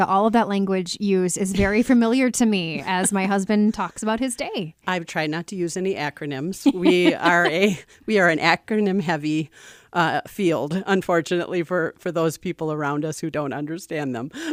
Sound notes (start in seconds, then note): 6.6 laughs